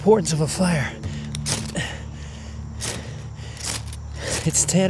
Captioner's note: breathing heavily